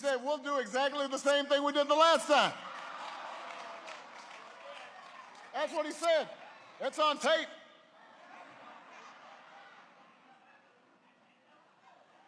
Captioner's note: applause